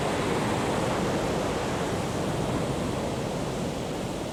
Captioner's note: ocean whooshing